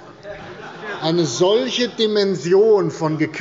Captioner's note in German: Heiterkeit bei der CDU und dem BÜNDNIS 90/DIE GRÜNEN